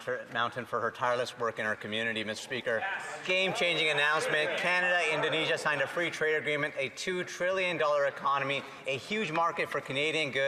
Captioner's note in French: voix de l'interprète